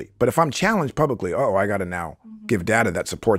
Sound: laughs

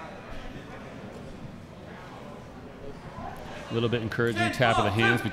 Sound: chattering

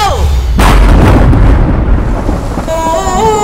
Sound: thunder rumbling

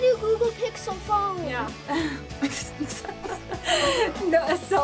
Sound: laughs

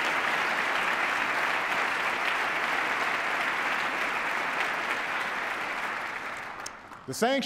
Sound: applause

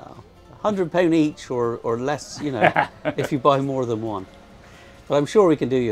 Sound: chuckles

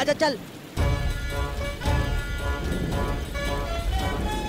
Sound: raining

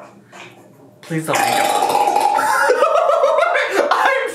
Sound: shampoo bottle farting; laughs

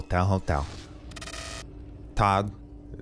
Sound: lights crackling

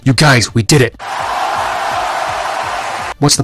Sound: crowd cheering

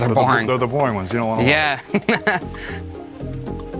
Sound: laughs

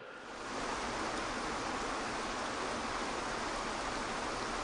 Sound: waterfall rushes

